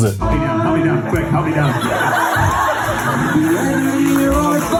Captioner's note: audience laughs